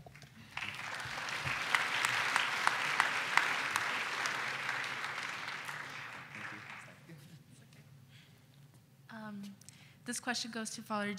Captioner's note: applause